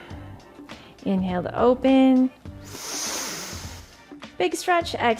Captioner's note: exhales; inhales